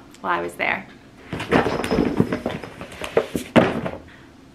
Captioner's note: books tumbling down